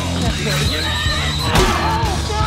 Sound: kettle whistles

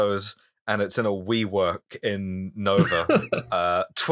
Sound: laughter

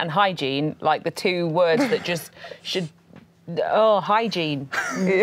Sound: groans

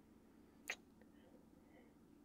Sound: kiss

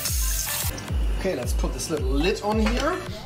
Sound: water splashes loudly

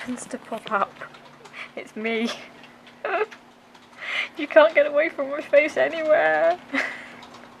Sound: laughs

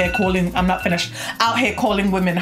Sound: alarm rings

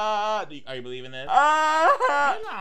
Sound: crying

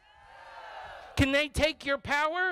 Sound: crowd

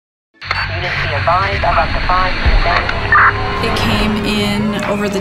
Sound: radio cracking

